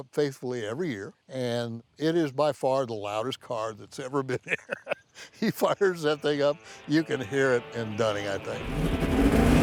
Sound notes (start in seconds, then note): 4.3 laughs